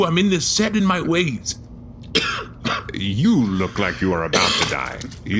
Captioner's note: coughs